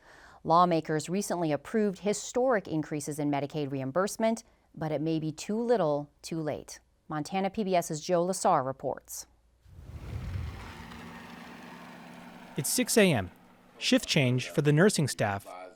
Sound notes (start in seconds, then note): 9.6 logo whooshes; 9.6 traffic hums